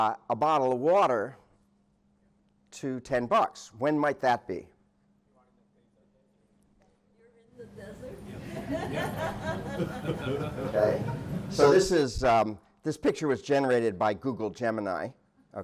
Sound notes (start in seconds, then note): 8.3 laughter